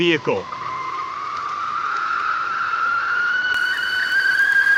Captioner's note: teakettle whistling